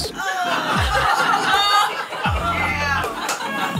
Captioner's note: laughing